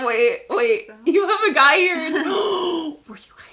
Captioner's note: gasping